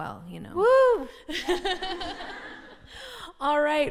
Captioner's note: laughter